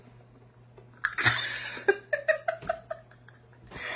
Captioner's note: laughs